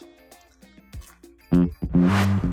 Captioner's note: crunching; funky bass guitar riff